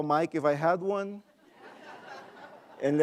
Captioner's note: laughing